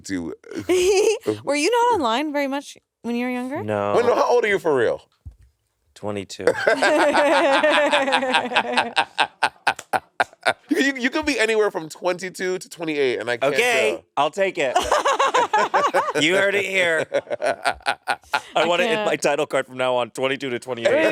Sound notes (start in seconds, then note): 0.5 chuckling; 6.5 laughing; 14.8 laughing